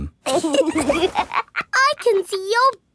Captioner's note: laughs